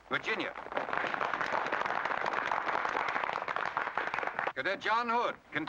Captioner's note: applause